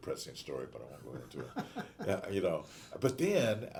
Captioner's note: laughing